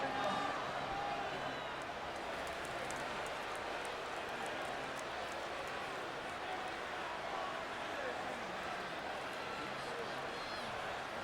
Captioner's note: applause